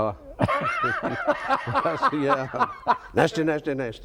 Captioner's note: both laugh